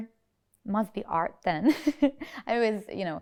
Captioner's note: giggles